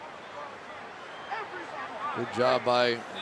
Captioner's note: arguing